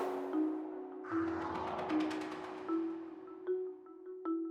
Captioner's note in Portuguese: som de vento